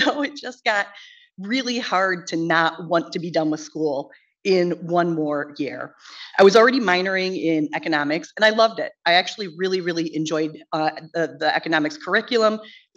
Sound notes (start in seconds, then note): none